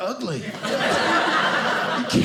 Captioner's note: audience laughing